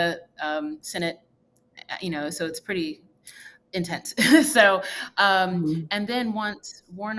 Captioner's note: laughs